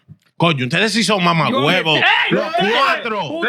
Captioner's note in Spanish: Hablando en idioma extranjero